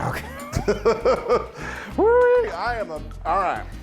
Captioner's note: laughs